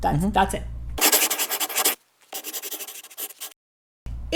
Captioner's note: scribbling